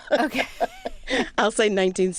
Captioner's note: laughter